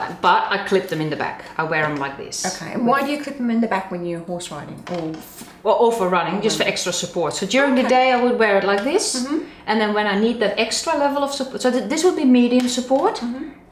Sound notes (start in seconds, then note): none